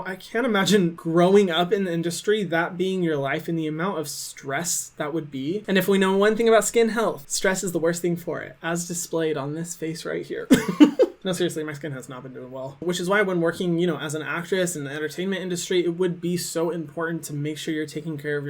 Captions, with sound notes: I can't imagine growing up in the industry, that being your life, and the amount of stress that would be. And if we know one thing about skin health, stress is the worst thing for it, as displayed on this face right here. (laughing) No, seriously, my skin has not been doing well which is why when working, you know, as an actress in the entertainment industry it would be so important to make sure you're taking care